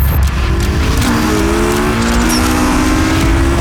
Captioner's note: engines roaring